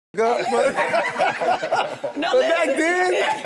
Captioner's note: group laughs